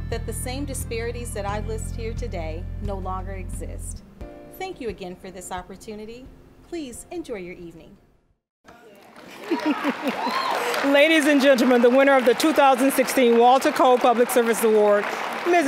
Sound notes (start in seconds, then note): 8.7 applause